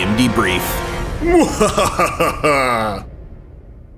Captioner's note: laughing